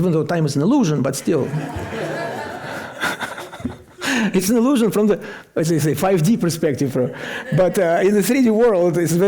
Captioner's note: laughter